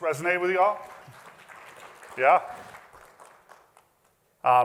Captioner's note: applause